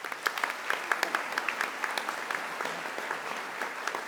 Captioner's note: audience applauding